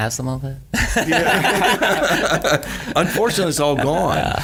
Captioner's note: laughing